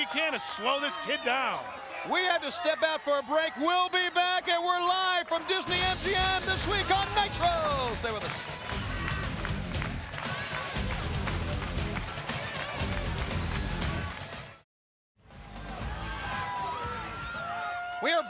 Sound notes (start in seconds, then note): 8.6 crowd clapping; 8.6 upbeat music; 15.4 crowd cheering